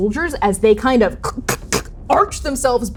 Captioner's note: organic cracking